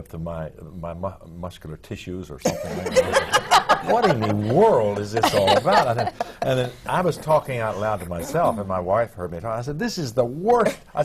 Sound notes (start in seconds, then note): 2.4 laughter